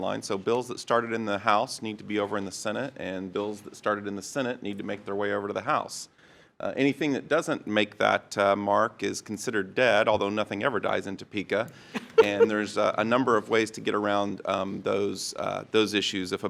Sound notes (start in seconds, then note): 11.9 trustee laughs